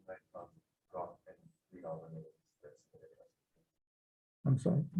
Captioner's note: senator faintly speaking